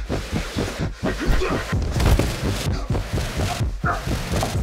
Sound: blows landing

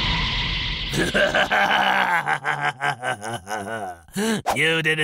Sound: evil laugh

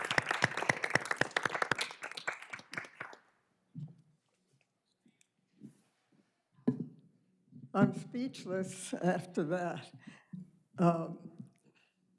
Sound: applause

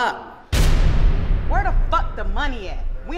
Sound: low rumbling

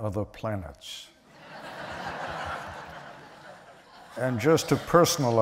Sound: laughter

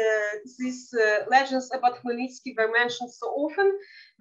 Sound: speaking in Yiddish

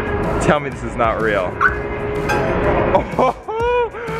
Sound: car beeps; laughing in disbelief

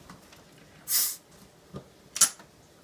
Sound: air escaping from bottle

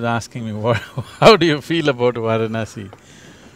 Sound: laughs

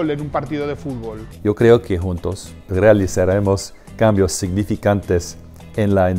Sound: speaks Spanish language

